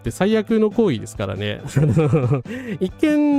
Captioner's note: laughter